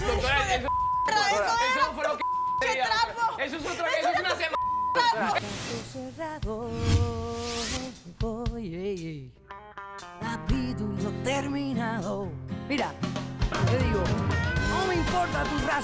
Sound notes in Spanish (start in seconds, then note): 0.2 Hablan al unísono; 2.1 Varios bips